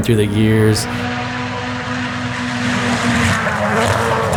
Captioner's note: engine revving